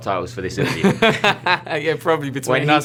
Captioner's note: laughter